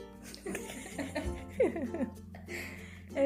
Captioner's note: laughing